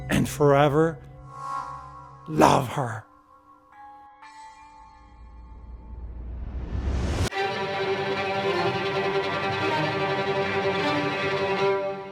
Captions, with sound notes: and forever love her. (bells clanging) (lively classical music)